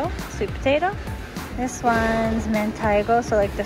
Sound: foreign language

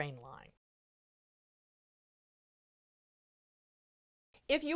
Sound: no Sound Present

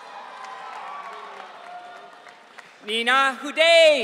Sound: audience cheering

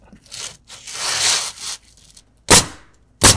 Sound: shingles scraping; nail gun bangs

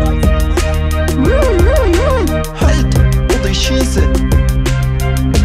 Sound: Sirene

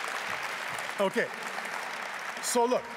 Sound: applause

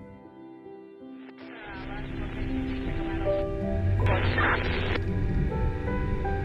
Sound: sad gentle music; police radio chatter

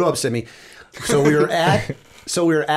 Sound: chuckle

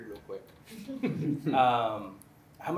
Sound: laughter

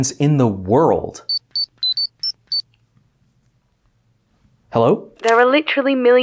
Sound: beeping phone ring

